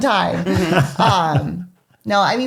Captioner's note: laughs